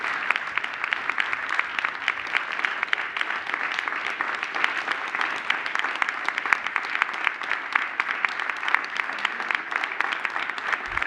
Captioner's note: applause